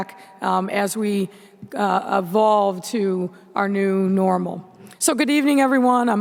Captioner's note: none